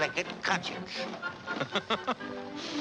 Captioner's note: laughs